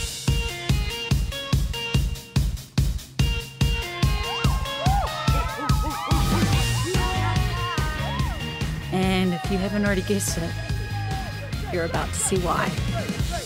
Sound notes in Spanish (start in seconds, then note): 4.0 Aplausos; 9.0 Voice over